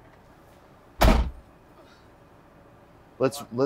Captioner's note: door bangs